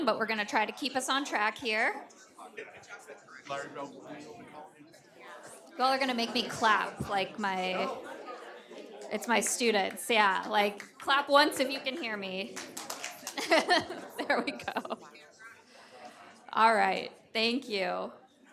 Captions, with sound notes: but we're gonna try to keep us on track here. Y'all are gonna make me clap like my, it's my students. Yeah, like clap once if you can hear me. (audience clap) (laughs) There we go. Alright, thank you.